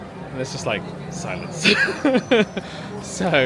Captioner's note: laughs